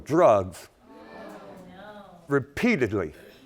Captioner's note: audience groaning